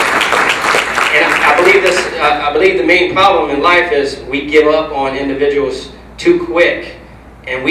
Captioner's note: applause